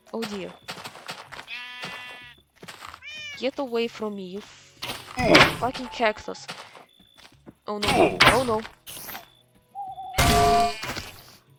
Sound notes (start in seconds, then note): 7.9 spider noise; 10.1 frying pan hit sound